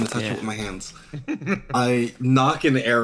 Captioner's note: laugh